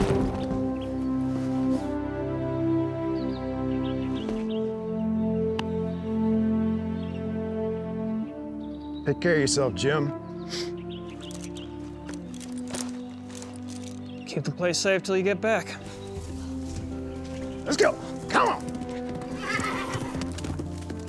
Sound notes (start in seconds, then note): 0.1 sentimental music; 10.4 sniffles; 19.2 horse neighs